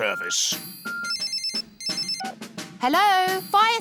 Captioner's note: phone rings